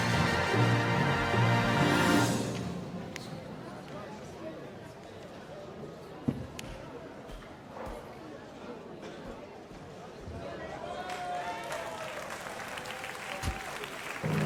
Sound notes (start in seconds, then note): 2.9 overlapping chatter; 10.8 cheers and applause